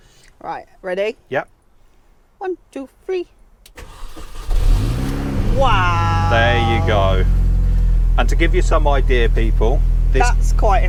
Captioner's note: engine Starts